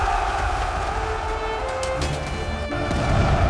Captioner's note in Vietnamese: la hét